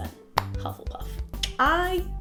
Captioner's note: mouth clicking